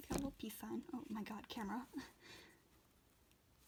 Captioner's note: laughs